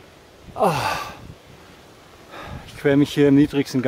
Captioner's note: moaning